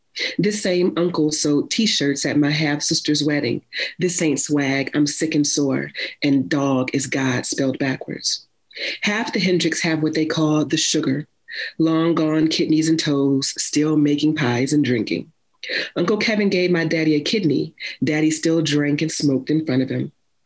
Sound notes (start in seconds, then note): none